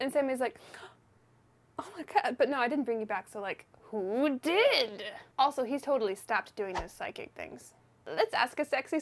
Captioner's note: gasp